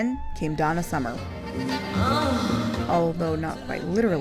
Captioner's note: moaning